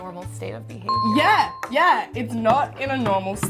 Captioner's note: dinging